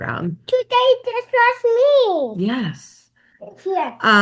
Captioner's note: child chattering